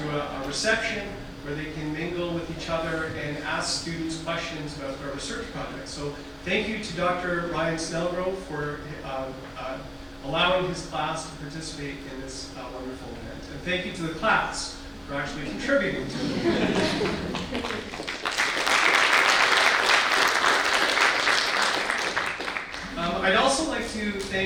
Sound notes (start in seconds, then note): 15.9 audience laughter; 18.3 audience applause